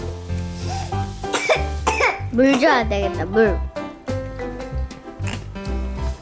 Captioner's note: cough, cough